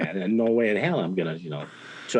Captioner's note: interviewer laughs